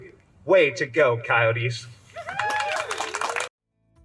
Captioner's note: clapping